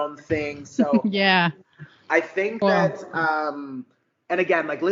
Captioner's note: giggles